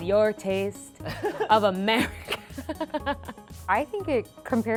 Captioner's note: man laughing; laughing